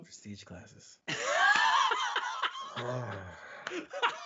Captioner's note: laughing